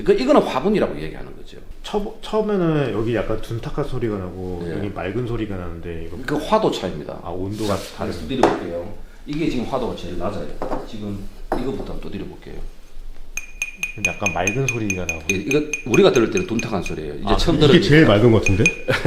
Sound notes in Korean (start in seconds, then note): 13.4 약간 맑은 소리가 나네요